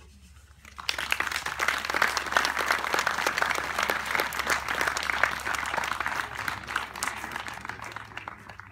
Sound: applause

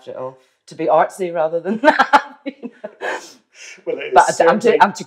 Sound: laughs

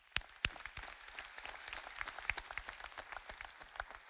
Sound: audience applauding

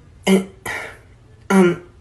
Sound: tiny grunt

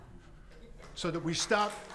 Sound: audience applauds

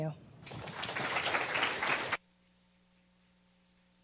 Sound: applause

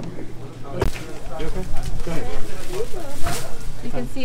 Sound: crowd chattering

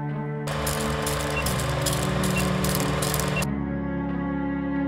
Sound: camera whirring; music continues

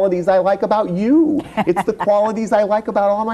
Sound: laughs

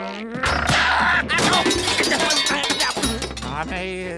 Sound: groaning

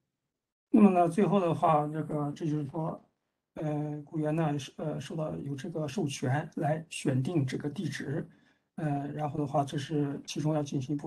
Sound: speaks in Mandarin

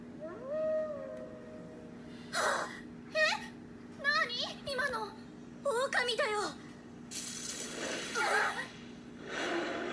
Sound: howling in the distance

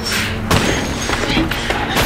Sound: dramatic music; thudding

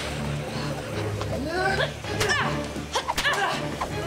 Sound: grunting

